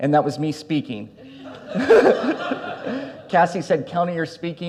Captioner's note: audience laughs; laughs